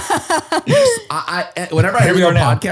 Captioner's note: laughs